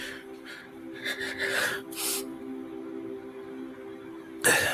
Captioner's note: breathes shakily